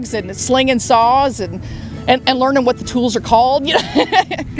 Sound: laughs

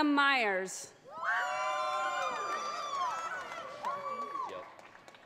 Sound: audience cheers

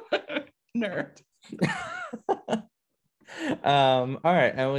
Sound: laughter

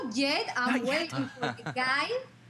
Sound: laughter

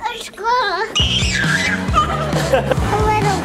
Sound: squealing; laughing

